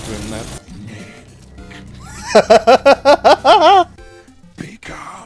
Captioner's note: laughter